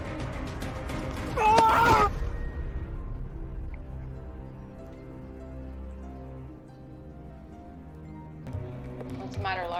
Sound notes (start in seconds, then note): 1.4 grunting; 1.5 dark music; 3.8 birds chirping